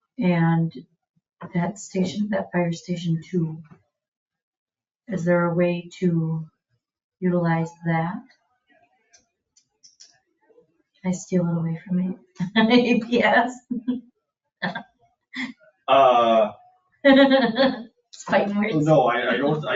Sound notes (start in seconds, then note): 15.9 laughs